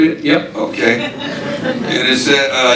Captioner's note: audience laughing